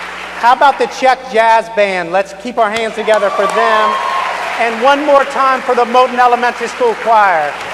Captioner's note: applause